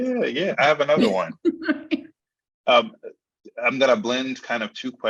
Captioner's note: laughing